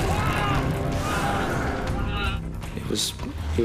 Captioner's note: screaming